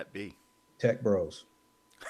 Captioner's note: both laughing